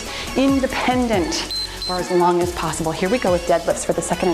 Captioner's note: timer beeps